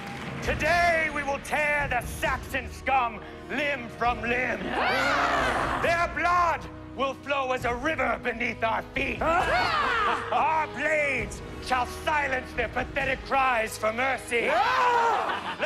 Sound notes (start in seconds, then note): 4.5 yelling; 8.8 yelling; 15.0 laughter